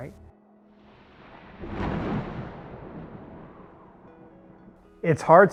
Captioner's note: lightning crackling; thunder rumbling